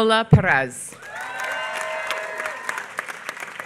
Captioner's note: applause